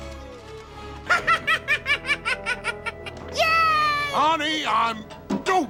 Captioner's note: laughing